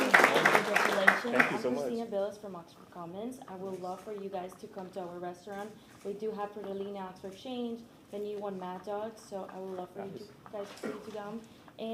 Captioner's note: applause